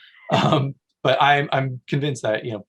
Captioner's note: chuckles